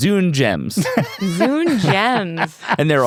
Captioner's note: laughs